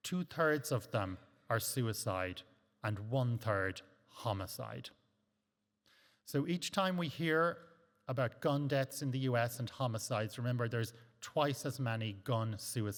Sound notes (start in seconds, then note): none